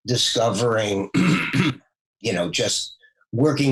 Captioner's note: clears throat